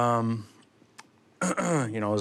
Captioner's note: clears throat